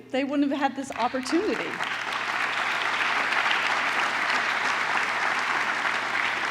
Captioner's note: applause